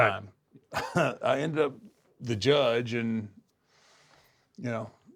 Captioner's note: laugh